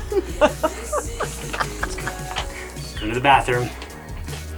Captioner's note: laughs